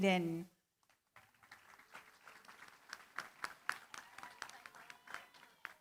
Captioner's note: applause